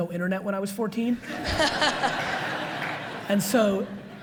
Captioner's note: audience laughs